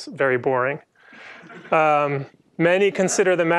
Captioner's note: laughter